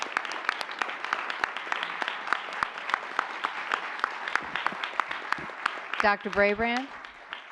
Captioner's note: applause